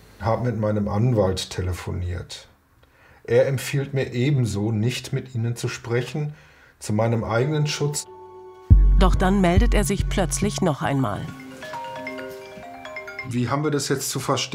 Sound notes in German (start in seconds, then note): 10.5 Telefonklingeln